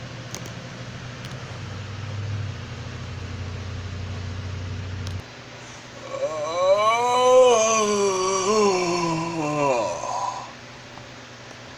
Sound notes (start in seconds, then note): 5.9 yawning